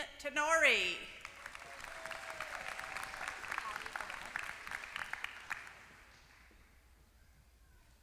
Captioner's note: applause